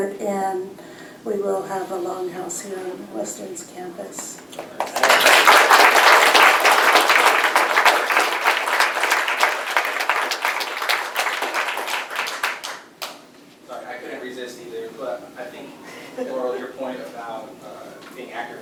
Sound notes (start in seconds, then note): 4.4 applause